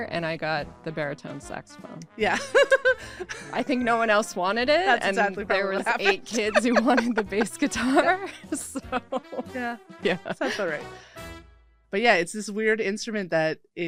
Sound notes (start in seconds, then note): 2.4 laughs; 8.9 laughs; 10.9 playful horn music